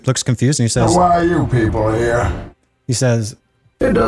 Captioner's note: bane voice